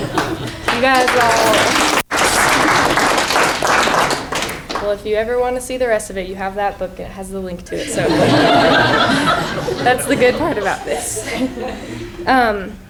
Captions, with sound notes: [ Applause ] Well, if you ever want to see the rest of it, you have that book, it has the link to it, so [laughing], that's the good part about this.